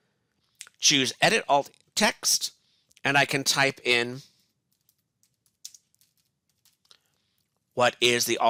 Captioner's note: typing